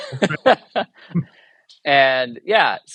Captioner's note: chuckles